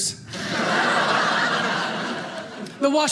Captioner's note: audience laughing